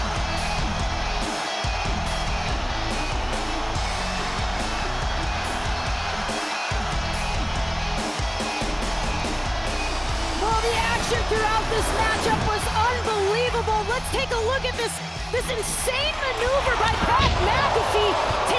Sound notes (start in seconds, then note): 1.0 crowd cheers; 1.0 upbeat music